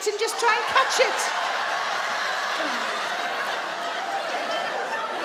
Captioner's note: audience laugh